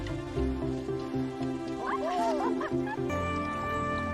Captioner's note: both laughing